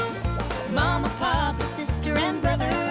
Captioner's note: laughing